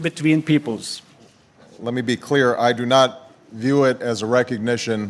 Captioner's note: soundbite of archived recording